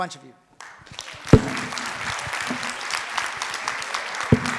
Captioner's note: audience applauds